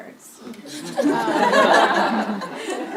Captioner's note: laughter